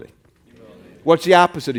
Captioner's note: crowd